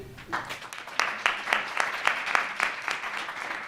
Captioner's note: applause